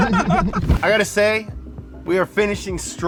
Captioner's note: all laugh; prolonged beeping; transition whooshes